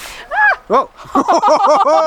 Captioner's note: laughing; yelling